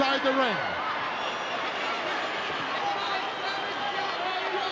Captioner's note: crowd yelling